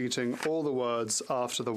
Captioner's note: speaking French